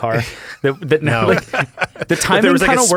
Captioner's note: laughs